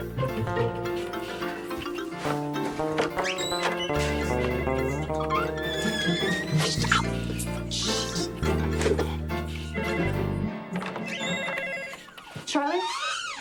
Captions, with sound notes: (anxious music) (door squeaks) Ow, shit. (phone rings) (door squeaks) Charlie?